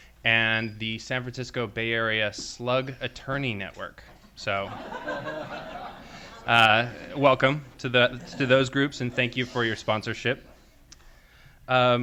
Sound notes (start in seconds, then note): 4.5 laughter and applause